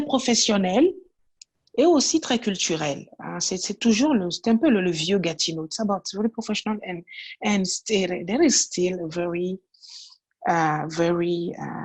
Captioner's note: french